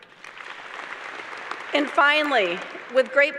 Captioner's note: applause